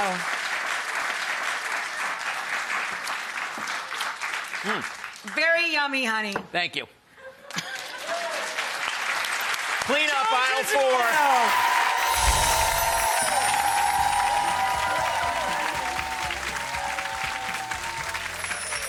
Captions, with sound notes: Wow. (Audience applause) Hm. Very yummy, honey. Thank you. (Audience applause) Clean up aisle four. (Audience applause and cheering)